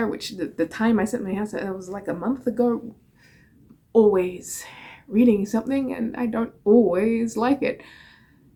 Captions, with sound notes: -"The Time I Set My House on Fire", it was like a month ago... Always reading something... and I don't always like it. [inhales]